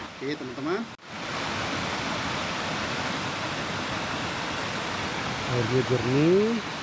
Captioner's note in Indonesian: Suara air